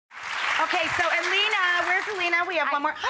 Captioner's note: audience applause